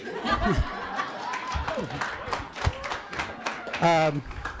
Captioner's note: audience laughing